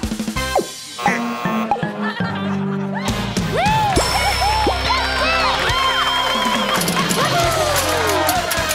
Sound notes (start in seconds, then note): 0.9 buzzer; 4.8 cheering